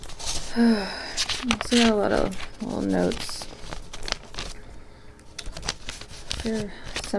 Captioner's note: sigh